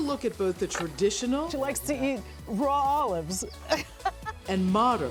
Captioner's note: laughs